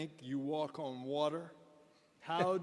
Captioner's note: chuckles